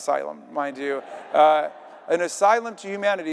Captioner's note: audience laughing